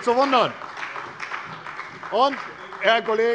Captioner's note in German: Beifall bei der CDU – Zurufe von der SPD